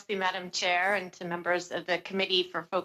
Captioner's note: speaking French